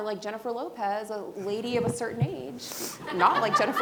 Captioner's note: laughing